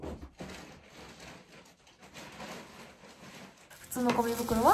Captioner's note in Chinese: 哗啦哗啦